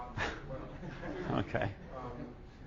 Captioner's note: audience laughing